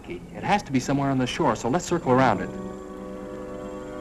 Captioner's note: whispering